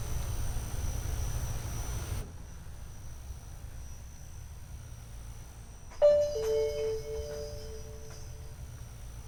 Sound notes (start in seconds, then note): 1.9 fan humming faintly; 6.0 bell dings